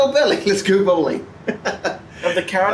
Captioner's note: laughs